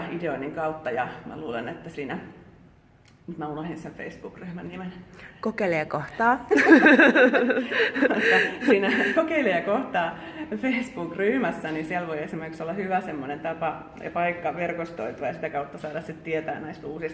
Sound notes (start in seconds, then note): 6.5 laughter